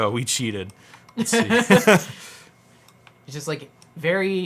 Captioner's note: laughs